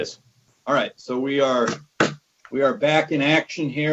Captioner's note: gavel bangs